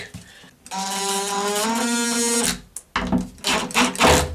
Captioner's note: drill whirring